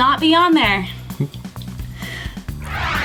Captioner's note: whoosh